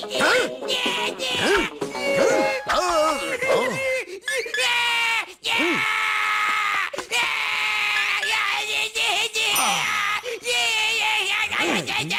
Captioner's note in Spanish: sonidos de TV; Billy bebé llora